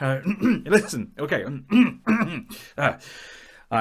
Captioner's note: ahem; clears throat